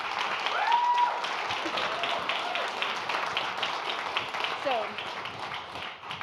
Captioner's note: audience cheers and applauds